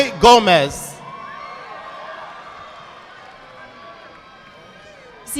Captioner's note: audience clapping